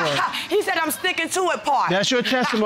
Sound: scoffs

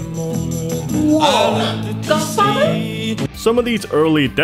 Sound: gasps

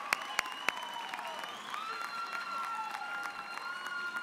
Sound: applause

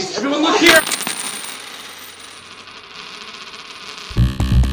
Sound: coins hitting floor; intense music

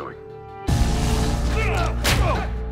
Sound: scream; punch

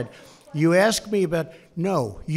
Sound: off-mic

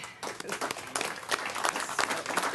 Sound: clapping

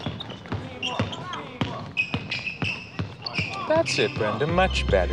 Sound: dribbling ball; players calling out

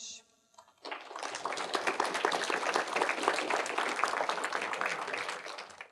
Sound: applause

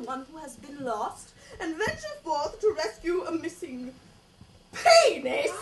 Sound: gasp

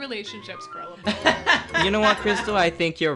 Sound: laughs

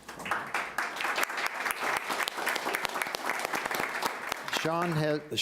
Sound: applauding

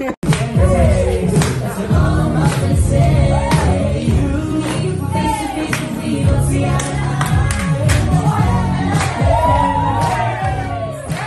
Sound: applause

